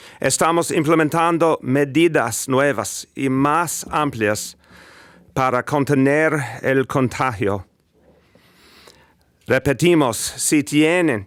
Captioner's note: speaking spanish